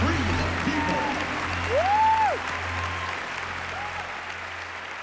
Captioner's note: cheering and applause